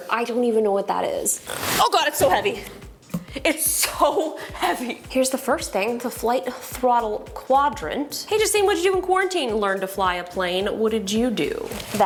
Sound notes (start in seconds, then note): 1.4 box scrapes